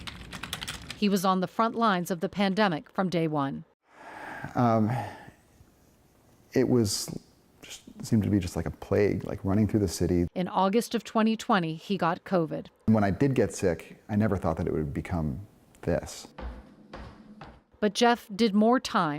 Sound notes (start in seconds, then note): 3.9 sighs